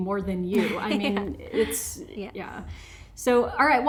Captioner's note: laughs